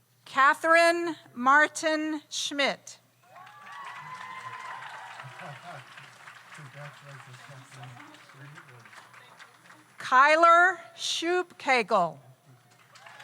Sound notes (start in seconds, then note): 3.3 audience cheers; 3.3 audience applauds